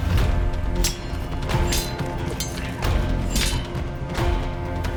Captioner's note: dramatic music; swords clanging